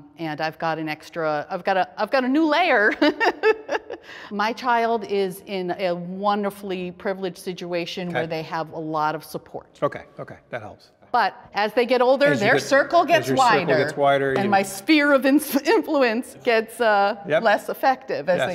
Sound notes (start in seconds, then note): 2.8 laughs